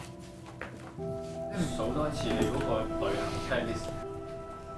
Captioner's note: Cantonese